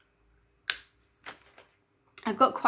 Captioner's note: crack